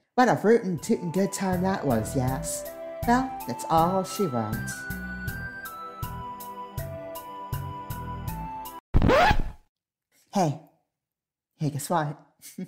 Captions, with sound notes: What a rootin'-tootin' good time that was, yas? Well, that's all she wrote~ [ record scratch SFX ] Hey. Hey guess what.